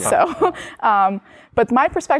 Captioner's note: laughter